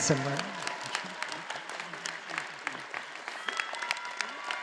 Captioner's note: all applauding